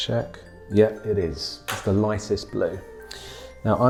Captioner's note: pencil tapping